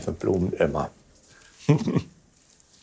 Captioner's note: he laughs